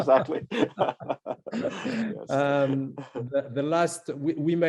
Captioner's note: laughter